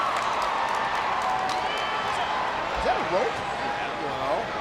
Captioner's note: audience clapping